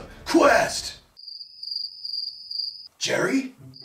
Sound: crickets Chirping

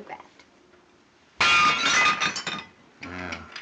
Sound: plate shatters

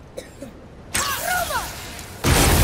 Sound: coughs

